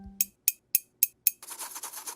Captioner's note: computer dinging; pen tapping; bristles moving